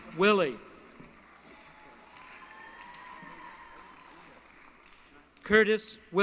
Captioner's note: applause